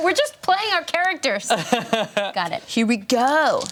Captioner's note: laughing